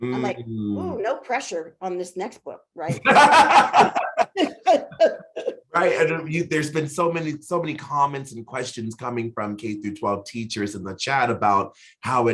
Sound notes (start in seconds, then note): 2.9 laughing; 4.7 chuckling